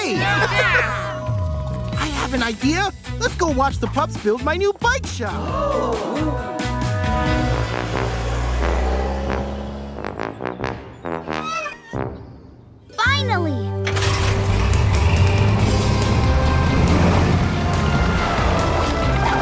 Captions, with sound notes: The bikes are on the way. [cheering] I have an idea. Let's go watch the pups build my new bike shop. [ooo-ing] Finally!